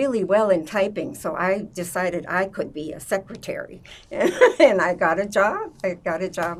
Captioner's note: laughing